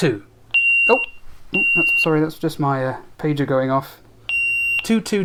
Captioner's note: pager goes off